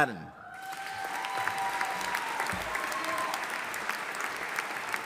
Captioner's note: audience applauding